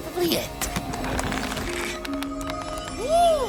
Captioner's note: the box unlatches and slowly opens